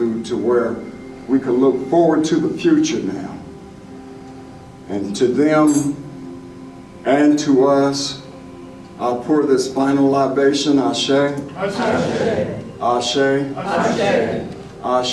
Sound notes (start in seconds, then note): 11.5 crowd